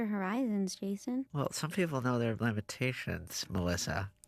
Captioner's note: none